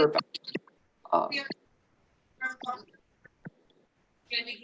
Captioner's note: background chatter